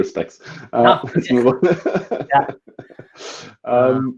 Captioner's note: laughing